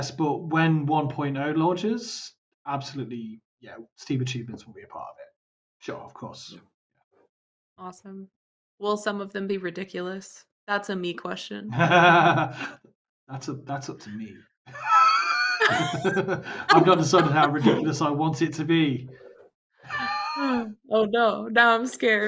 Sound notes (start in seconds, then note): 11.7 laughter; 14.7 laughter